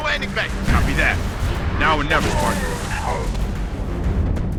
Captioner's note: radio